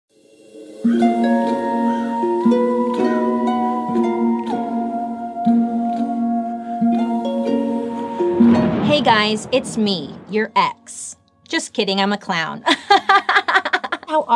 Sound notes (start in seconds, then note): 0.2 soft eerie music; 8.1 lightning crashes; 12.8 laughs